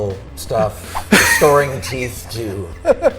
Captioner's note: laughing; laughs